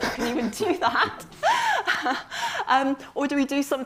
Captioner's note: laughs